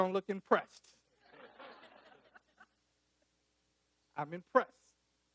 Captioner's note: audience laughing